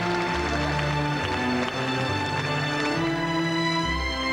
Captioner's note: applause